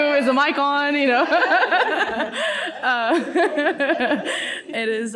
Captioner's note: laughs